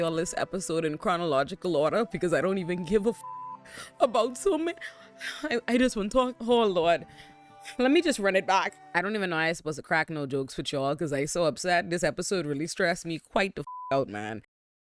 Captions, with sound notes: all this episode in chronological order because I don't even give a (beep) about so many. I just wanna talk, oh lord. Let me just run it back. I don't even know how I supposed to crack no jokes for y'all cause I so upset. This episode really stressed me quite the (beep) out man.